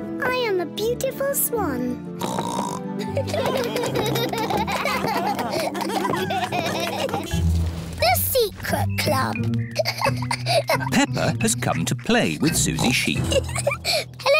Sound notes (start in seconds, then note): 2.2 oinks; 3.1 all applause and laugh; 9.7 peppa giggling